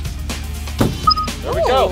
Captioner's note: bright chime; hollow thud